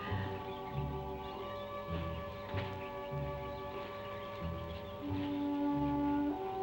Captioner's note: birds chirping; gentle music